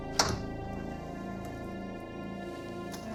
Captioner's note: lock clicks